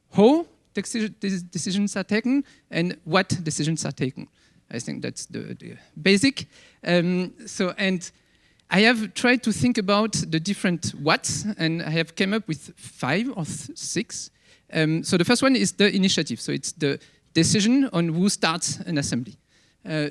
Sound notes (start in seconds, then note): none